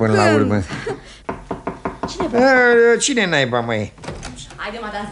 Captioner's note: knocking on the door